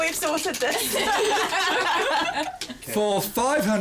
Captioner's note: laughter